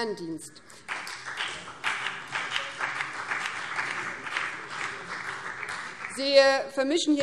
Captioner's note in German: Beifall BÜNDNIS 90/DIE GRÜNEN